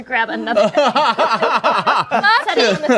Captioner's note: laughter drowns out speech